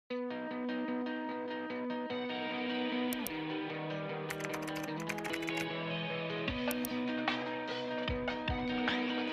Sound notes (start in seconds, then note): 0.4 bright music; 4.3 keyboard clacking; 4.3 mouse clicking; 7.2 uplifting music